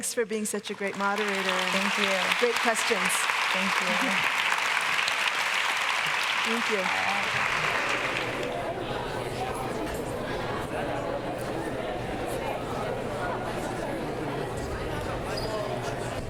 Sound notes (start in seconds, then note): 1.8 audience applauding; 8.5 people chattering